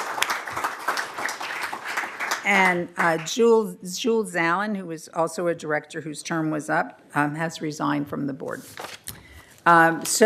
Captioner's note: applause